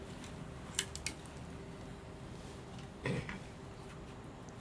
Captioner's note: microscope clicking